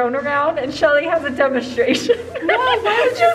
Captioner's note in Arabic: يضحك